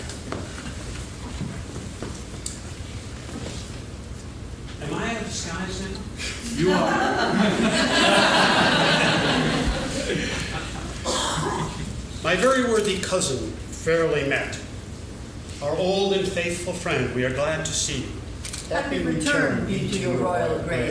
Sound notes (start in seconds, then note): 6.5 laughing